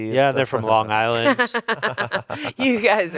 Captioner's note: laughs